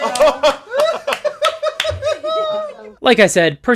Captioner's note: laughter